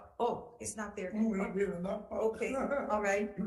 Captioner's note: laughs